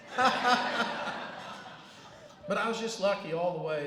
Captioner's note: laughter